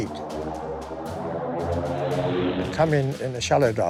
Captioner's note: engine roaring